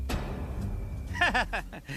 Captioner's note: laughing